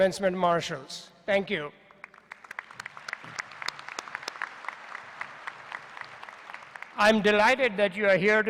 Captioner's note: applause